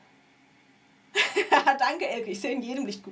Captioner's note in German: gelächter